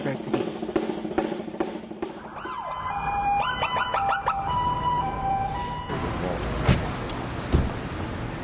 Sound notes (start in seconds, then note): 0.0 drum beating; 2.1 sirens